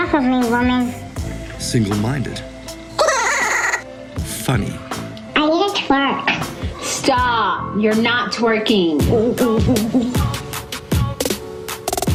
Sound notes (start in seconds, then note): 3.0 laughing; 9.4 upbeat music